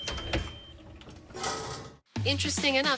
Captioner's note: oven rings